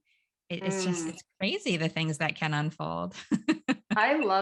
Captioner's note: laughs